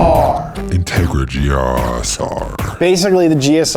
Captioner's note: voiceover